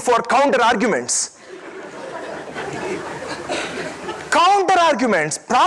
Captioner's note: audience laughing